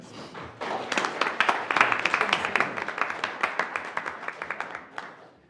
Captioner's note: attendees applauding